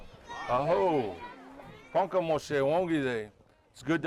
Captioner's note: speaking in Ponca language